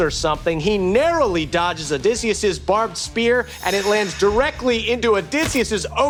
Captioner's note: none